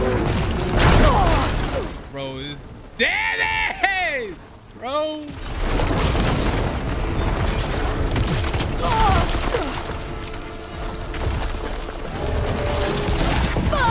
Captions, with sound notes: (monster groaning) (Aloy groans) - Bro this damage! Bro. (Aloy groans)